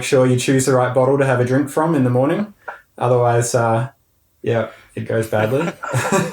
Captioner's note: both laughing